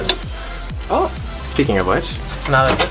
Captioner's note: microwave dings